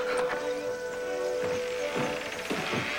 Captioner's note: sobbing